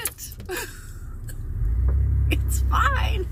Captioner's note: laughter